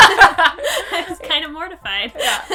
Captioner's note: laughing